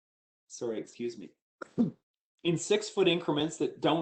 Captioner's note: coughs